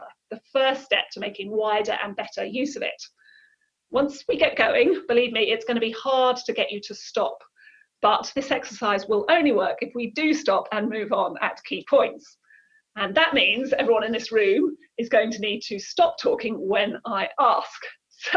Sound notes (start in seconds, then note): none